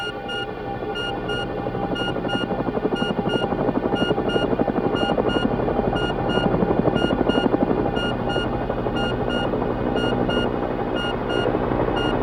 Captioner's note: helicopter sounds